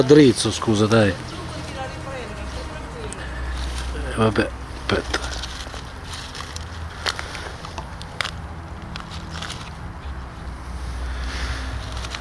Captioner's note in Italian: Applauso